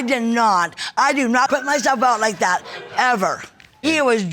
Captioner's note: audience laughs